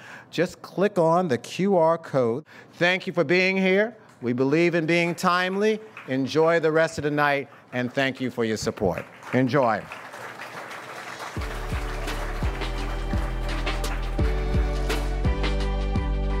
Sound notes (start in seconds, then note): 10.2 audience applauds; 11.2 uplifting music